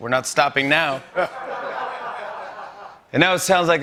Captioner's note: laughter